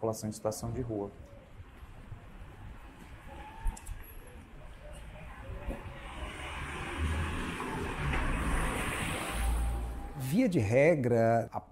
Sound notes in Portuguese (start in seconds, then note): 7.0 Barulho de carro; 9.8 Voz masculina